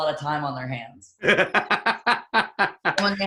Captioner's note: laughs